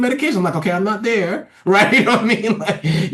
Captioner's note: laughs